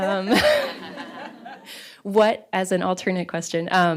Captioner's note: laughter